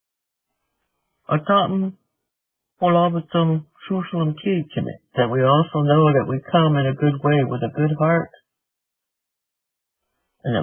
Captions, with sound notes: (Speaking in Native language.) That we also know that we come in a good way with a good heart,